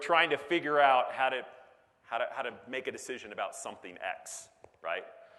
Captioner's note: none